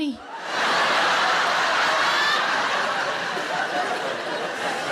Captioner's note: audience laughs